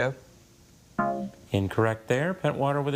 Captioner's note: tone clunks